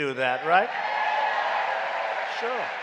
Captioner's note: applause